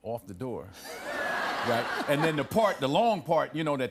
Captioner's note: laughter